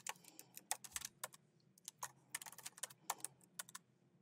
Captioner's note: keyboard clacking